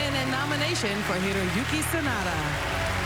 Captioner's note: applause